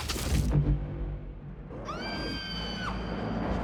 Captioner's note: piercing scream